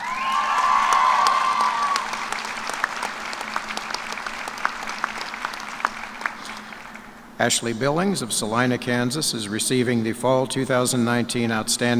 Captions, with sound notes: FLORIDA IS RECEIVING THE FALL 2019 OUTSTANDING FUTURE TEACHER AWARD FOR ELEMENTARY EDUCATION. [ CHEERS AND APPLAUSE ]